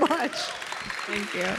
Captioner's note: audience applauding